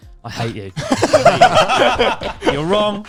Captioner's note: all laughing loudly